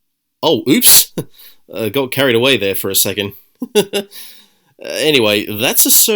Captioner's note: giggles